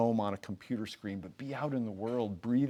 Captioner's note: none